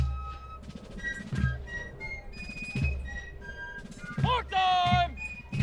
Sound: soldiers shouting commands

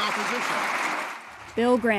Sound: applause

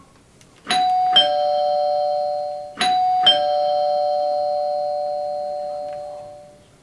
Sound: doorbell ringing

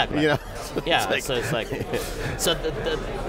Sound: laughter

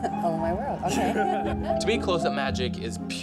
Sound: laughs

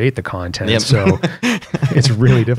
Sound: laughter

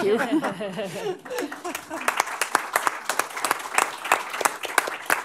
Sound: applause

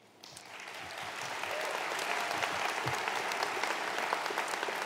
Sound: crowd applauds

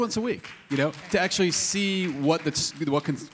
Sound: audience applauding

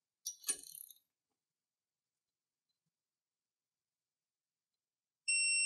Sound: silence

